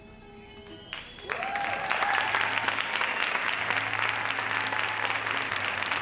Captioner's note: audience cheers and applauds